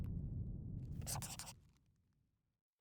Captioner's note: scribbling